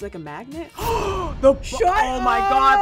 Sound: gasps

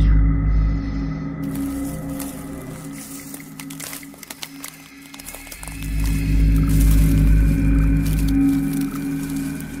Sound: walking through leaves

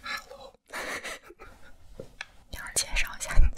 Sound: laughter +1

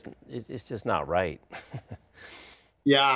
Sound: chuckles

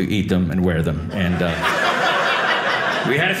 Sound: audience laughing

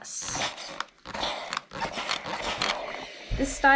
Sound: steam iron whooshing

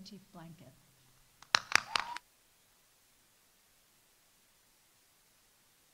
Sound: audience applauding

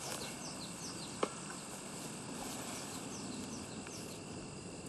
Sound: birds chirping; crickets chirping

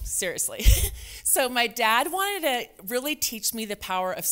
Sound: chuckles

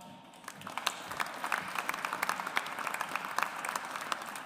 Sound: audience applauds

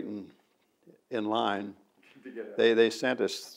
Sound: laughs

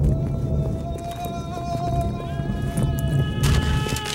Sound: men screaming

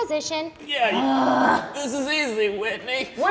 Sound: groans

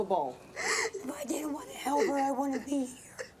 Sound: sobbing

